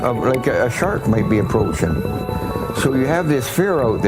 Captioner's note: scream